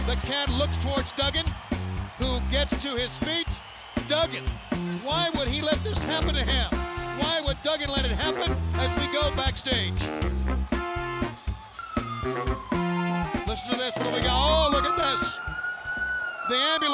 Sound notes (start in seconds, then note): 10.3 jazzy funk music; 11.8 siren wailing